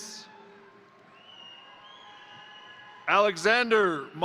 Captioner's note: crowd cheering; crowd applauding